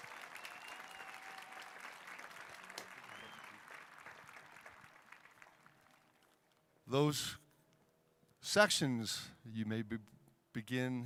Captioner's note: applauding